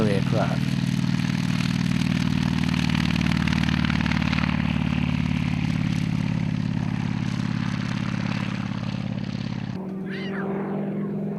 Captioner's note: aircraft sounds